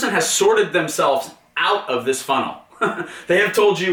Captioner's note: laughs